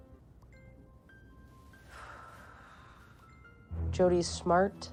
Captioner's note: sighing